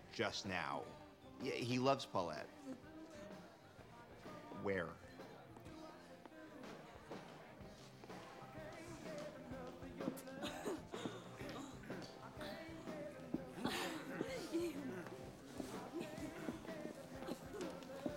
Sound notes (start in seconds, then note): 10.3 woman Laughs; 12.3 laughs; 13.4 man Clears Throat